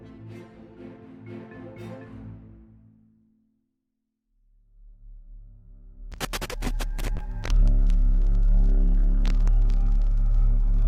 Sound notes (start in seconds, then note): 0.0 instrumental music; 6.1 crackling static